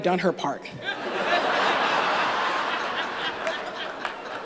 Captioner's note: laughter